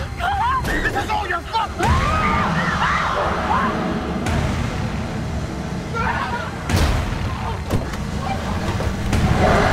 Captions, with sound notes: - This is all your fault! (Adrienne screams)